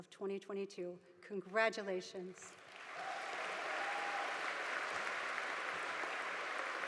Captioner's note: audience applauding